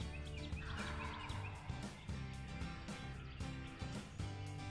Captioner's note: turkey gobbles